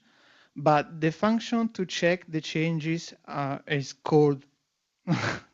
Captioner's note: laughs